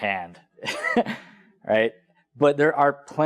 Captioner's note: laugh